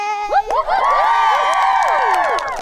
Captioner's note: campers cheering; campers applauding